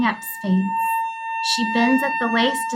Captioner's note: high-pitched whistling continues